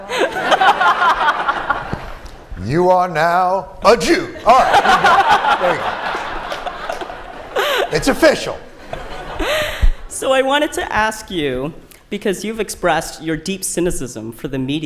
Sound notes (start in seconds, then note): 0.0 laughter; 6.2 laughter